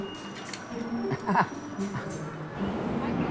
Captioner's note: chuckles